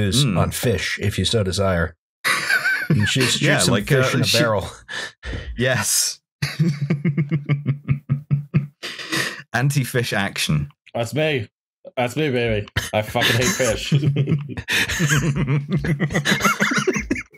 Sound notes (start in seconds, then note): 6.4 laughter; 12.7 laughter